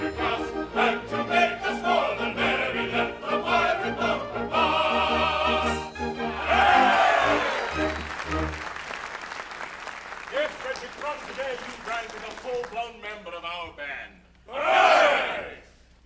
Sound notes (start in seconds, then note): 6.6 applause